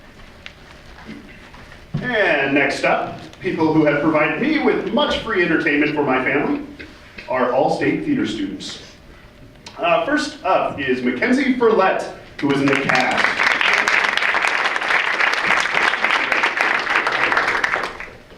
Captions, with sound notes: >>And next up, people who have provided me with much free entertainment for my family. Our All-State theater students. First up is Mackenzie Furlett, who was in the cast. (audience applauds)